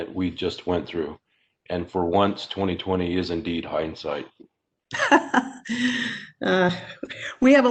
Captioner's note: laugh